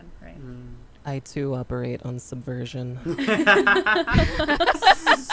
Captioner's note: laughter